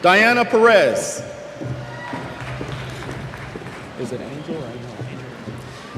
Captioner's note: cheers